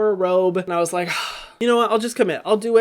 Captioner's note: sighing